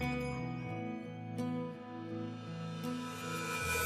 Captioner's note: bell jingles